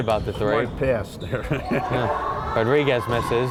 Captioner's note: laughing